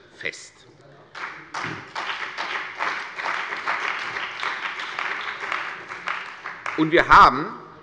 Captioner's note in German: Beifall bei der CDU und dem BÜNDNIS 90/DIE GRÜNEN